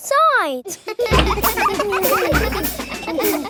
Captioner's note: children laughing